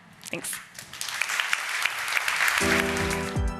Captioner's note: applause